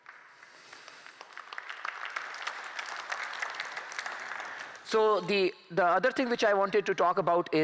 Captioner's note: applause